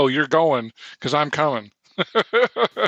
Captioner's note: chuckling